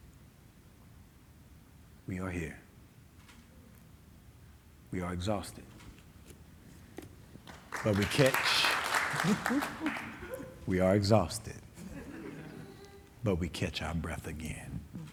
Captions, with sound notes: We are here. We are exhausted. (audience clapping) But we catch... (clapping fading) We are exhausted, but we catch our breath again.